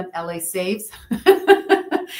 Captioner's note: laughs